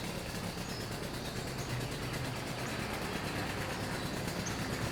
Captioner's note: truck engine rattles